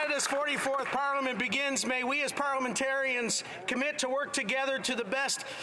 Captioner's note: applause